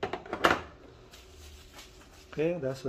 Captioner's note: tissue sound